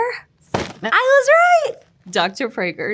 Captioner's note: box thudding